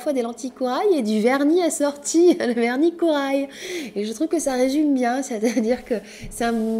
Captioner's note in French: rires